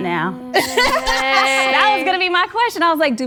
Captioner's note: women laughing